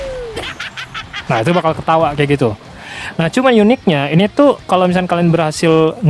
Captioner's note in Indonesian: tertawa